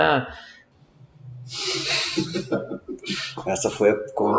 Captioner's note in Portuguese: risos